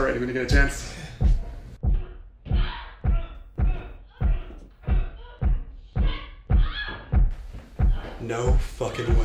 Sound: bed pounding continues

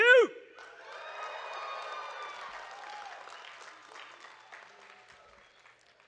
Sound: audience cheering and clapping

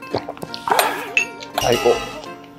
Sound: laughing

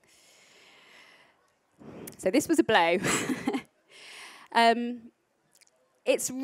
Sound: laughs

